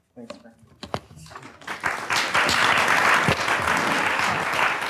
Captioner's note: audience applauds